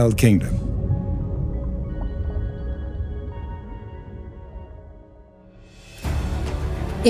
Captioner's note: gentle music; soft wave of water; intense music